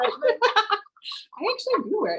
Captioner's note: laughs